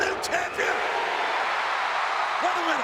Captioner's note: audience cheering